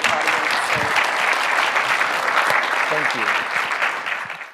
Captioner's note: audience clapping